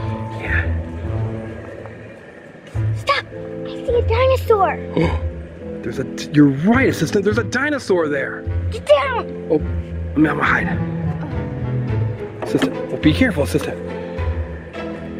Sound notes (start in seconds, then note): 1.7 whisper; 5.0 gasp